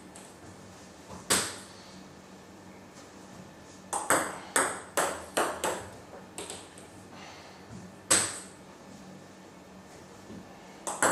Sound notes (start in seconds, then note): 3.9 ball ping pong hitting continues